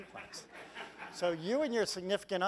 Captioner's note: laugh